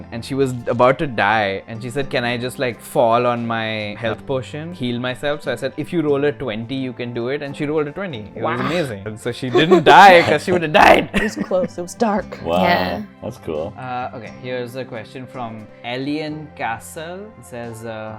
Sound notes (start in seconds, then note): 9.5 laughter